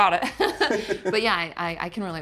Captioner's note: laughing